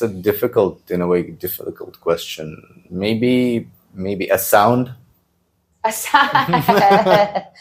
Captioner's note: laughs